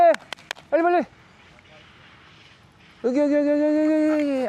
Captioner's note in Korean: 우다다다다